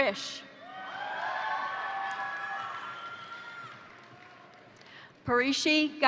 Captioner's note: crowd cheering; crowd applauding